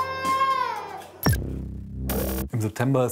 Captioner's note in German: Das Baby weint; Dröhnende Musik